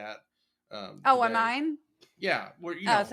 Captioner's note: laugh